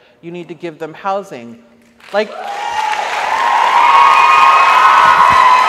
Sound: audience applauds

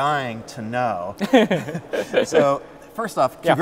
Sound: chuckles

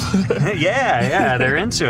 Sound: laughing

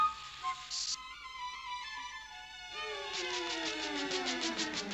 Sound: sizzles

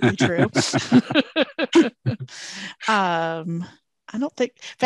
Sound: laugh

